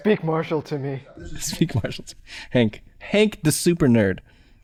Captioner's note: chuckles